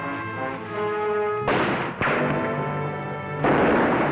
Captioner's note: gunfire